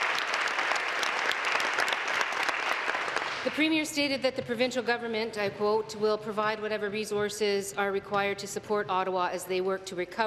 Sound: applause

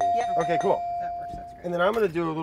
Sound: belling ringing

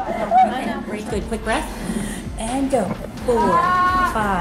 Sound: inhales

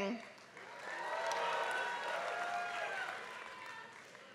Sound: applause

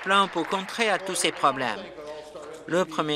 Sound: applause

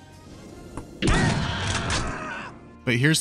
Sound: bang

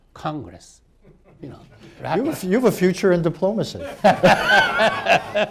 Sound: laughter

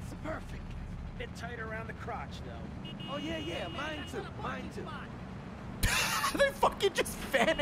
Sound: laughs

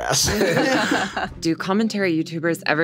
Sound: everyone laughs

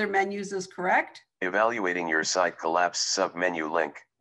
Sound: recorded voice

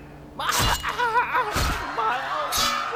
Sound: scream

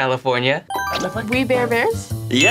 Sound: bell dings

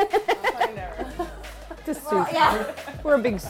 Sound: laughter

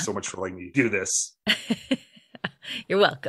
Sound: laughter

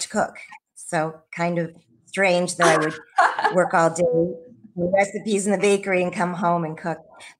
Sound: laughs

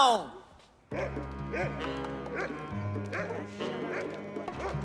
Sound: dog barking

